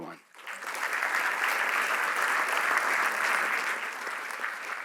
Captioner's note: applause